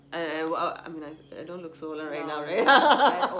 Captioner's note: laughs